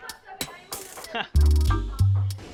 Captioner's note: chuckles